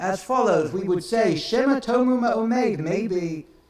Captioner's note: speaks in foreign language